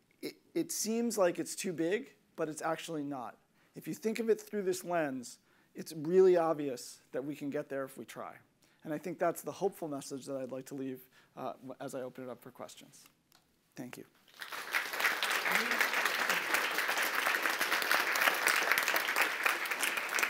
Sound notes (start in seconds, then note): 14.2 applause